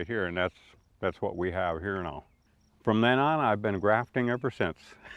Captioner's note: chuckles